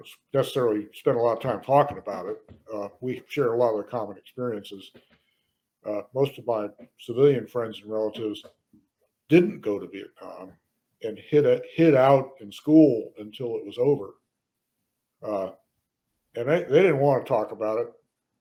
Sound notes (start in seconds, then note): none